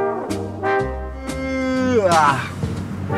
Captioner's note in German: Gähnen